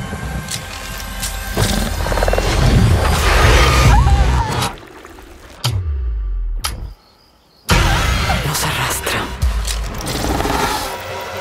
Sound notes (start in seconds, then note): 3.3 screaming